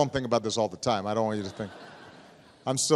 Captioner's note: laughter